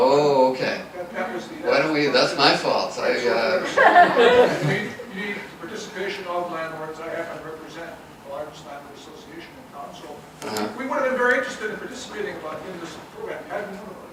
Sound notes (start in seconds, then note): 3.4 audience laughs